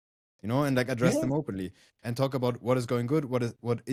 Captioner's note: laughs